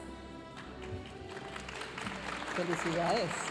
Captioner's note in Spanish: aplausos de la audiencia